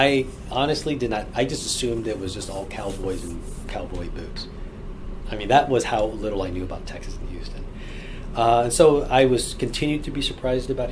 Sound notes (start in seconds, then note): none